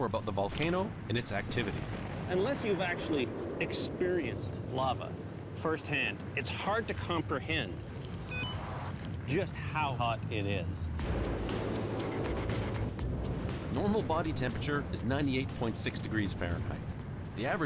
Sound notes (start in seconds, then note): 7.6 beeps